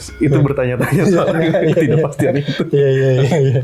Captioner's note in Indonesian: tertawa